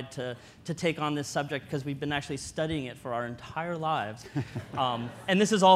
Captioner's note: audience laughter